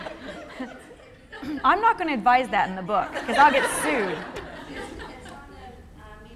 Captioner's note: laughter; laughter